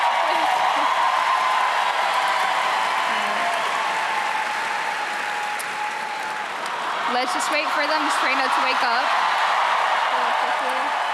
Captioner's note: crowd cheering